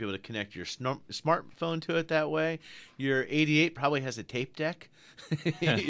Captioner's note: both laugh